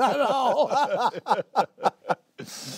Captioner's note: laughter